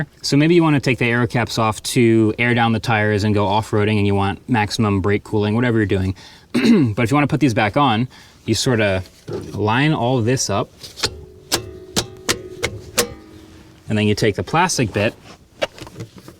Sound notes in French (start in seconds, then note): 10.8 clic du capuchon